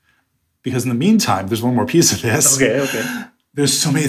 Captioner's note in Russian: смеется